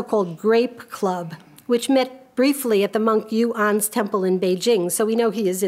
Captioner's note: speaks a foreign language